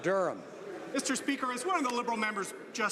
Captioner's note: some Applause